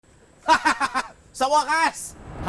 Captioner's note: laughing